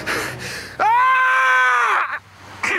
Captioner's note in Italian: Grido disperato